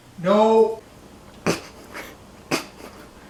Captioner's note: chuckling